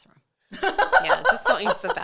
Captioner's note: laughing